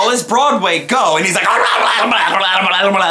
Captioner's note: imitates dog playing with ball